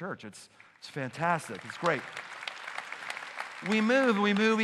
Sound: applause

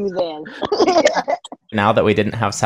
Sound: laughing

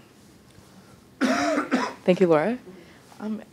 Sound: coughing

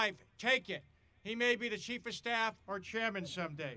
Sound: audience laughing

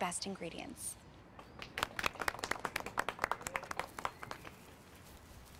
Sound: applause

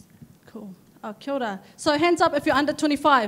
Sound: speaks in a foreign language

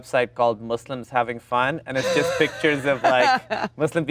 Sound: Gal laughs

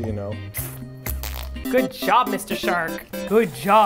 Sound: poop sound

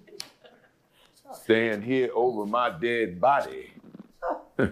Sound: chuckles

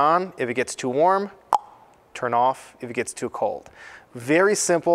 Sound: clicks tongue

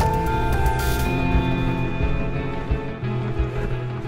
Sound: water bubbling

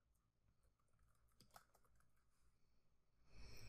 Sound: keys tapping

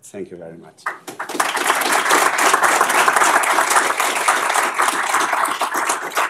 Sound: applause

